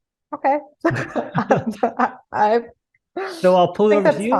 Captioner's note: both laughing